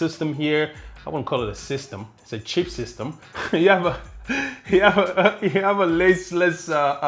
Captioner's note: chuckling